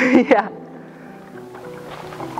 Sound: laughing

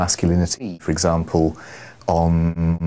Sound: inhales

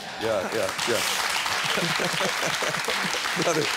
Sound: audience clapping

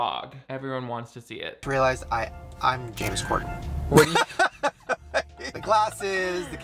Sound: laughs

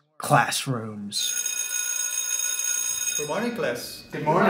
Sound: sound of school bell ringing

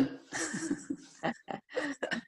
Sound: laughter

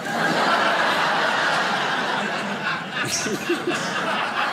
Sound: crowd laughs

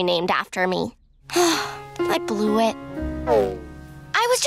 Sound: sighing

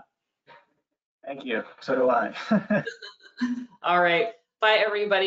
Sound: chuckles

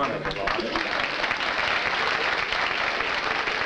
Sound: applause

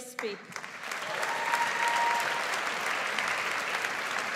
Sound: audience applauds

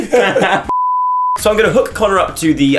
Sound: beep

